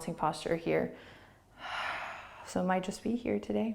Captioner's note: exhaling